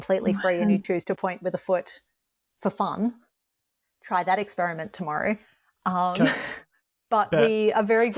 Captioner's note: chuckles